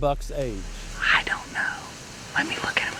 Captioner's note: whispering